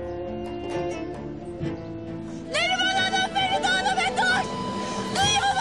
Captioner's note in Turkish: Bağırarak